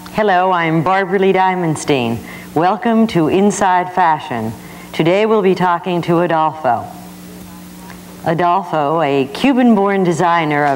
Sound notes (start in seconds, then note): none